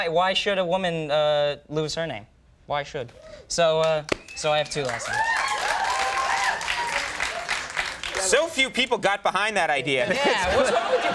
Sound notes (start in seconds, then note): 3.8 audience applauding; 4.0 audience cheering; 10.0 audience laughing